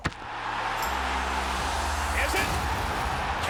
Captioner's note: crowd cheers